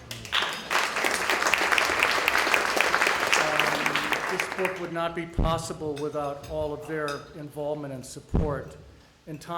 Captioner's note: audience applause